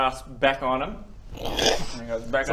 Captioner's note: wrrrshsch